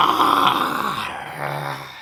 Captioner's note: mediocre attempt at growling